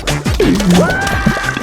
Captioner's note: exhales Oxygen